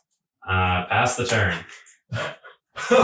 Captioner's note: laughing